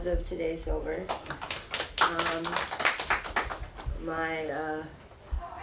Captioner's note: people clapping